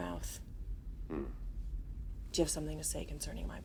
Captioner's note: Nash grunts